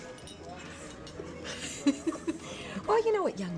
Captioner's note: women giggle